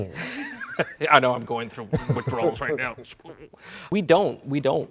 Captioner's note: laughs